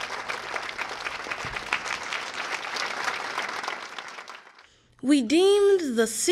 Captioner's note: applause